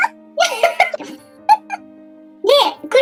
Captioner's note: laughs